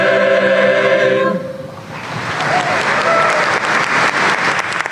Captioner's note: applause